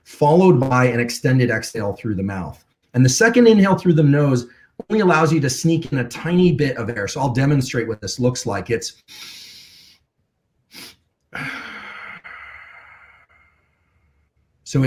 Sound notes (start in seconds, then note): 11.3 inhales; 11.3 exhales